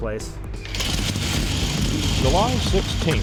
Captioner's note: engine